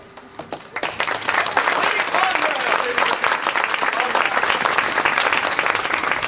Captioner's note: applause